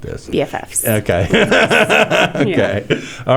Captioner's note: laughs